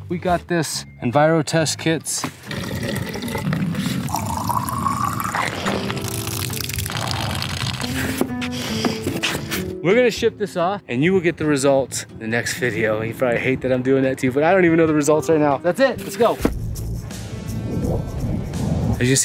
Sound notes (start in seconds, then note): 2.4 water gurgling; 3.6 bottle lid swishing; 4.1 water pattering; 5.3 bottle lid swishing; 6.3 water pattering; 8.2 bottles rustling; 17.3 mellow rock music